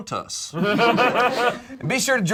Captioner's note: group laughs